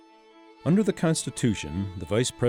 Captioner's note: voiceover